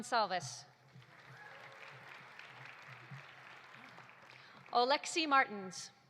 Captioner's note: audience applauding